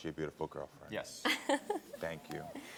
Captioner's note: laughs